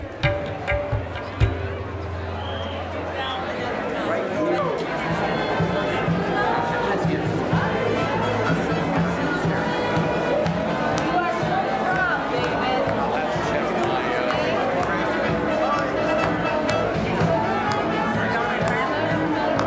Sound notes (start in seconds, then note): 0.0 upbeat music; 2.8 crowd sounds